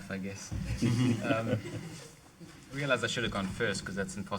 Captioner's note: audience laughing